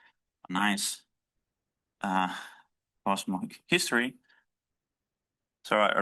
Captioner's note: stutters